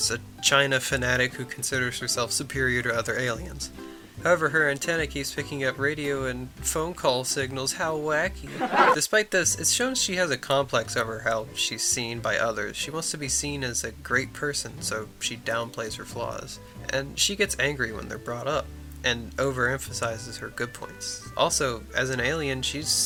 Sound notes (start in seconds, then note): 8.4 laugh track